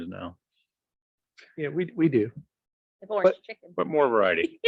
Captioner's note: chuckles